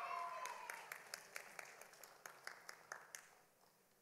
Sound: audience applauding

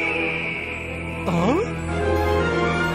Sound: gasps

